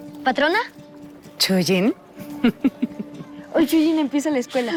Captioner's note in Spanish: Risas